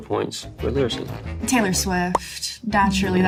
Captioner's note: picture pops into view